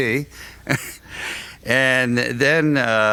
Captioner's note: laughs